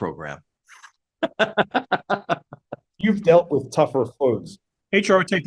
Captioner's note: laugh